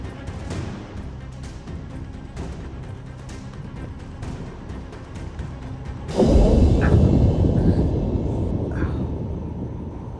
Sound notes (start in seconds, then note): 2.8 wind picks up; 6.1 thunder